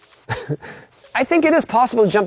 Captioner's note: laughing